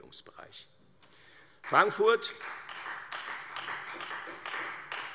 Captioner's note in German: Beifall Freie Demokraten